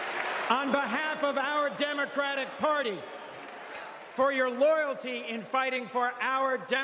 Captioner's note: applause